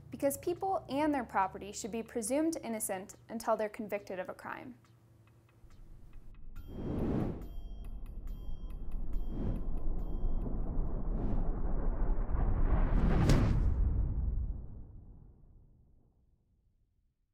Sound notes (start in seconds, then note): 5.4 thunder crashing; 5.7 whooshing